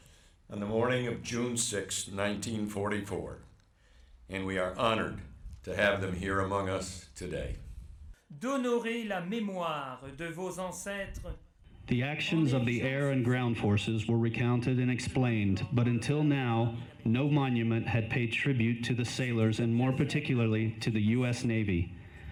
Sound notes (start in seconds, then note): 11.0 speaks in a foreign language